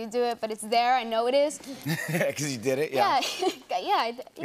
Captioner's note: laughs